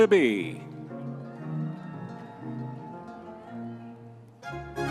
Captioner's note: audience members cheering